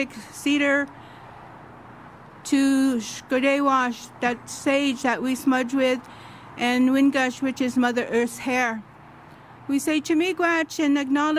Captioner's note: speaks Idigenous language